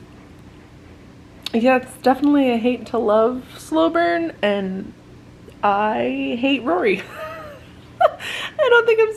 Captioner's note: laughs